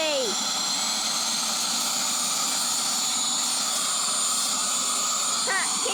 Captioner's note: air duster whirring